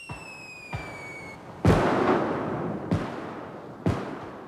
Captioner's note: fireworks exploding